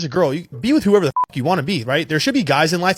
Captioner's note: beep